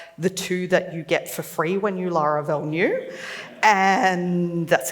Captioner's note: laughs